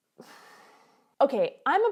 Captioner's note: sighs